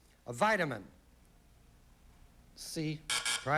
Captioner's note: buzz buzz